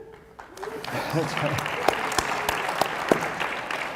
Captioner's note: applause